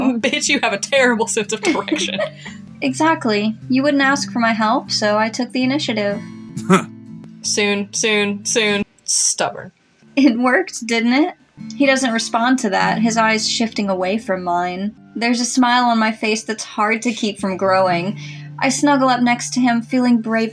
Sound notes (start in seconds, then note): 1.6 giggle; 6.6 scoffs